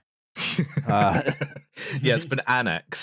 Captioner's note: laughter